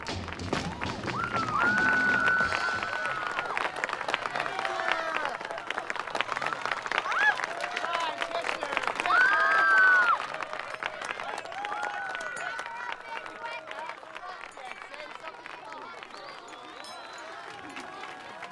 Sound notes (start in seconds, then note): 2.0 cheering; 9.0 screaming